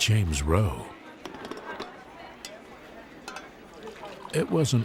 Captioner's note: staff chattering